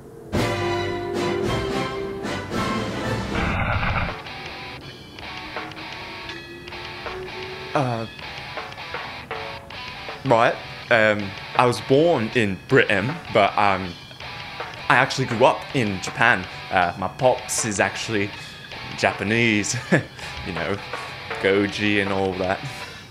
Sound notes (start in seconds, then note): 3.4 radio static; 10.2 heavy cockney accent